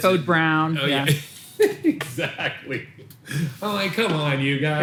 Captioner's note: laughs